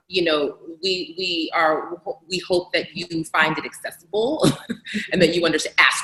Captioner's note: laughs